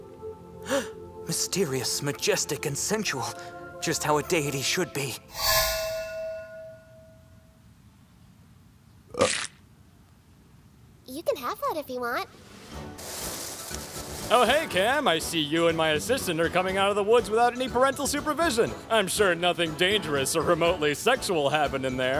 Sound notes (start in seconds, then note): 0.6 gasp; 9.1 burp